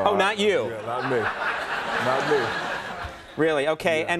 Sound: audience laughing

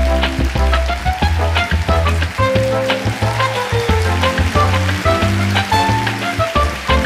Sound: audience applause

